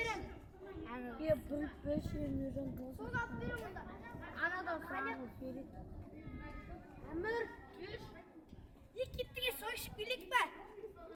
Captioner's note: children talking